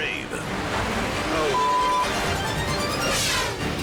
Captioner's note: beep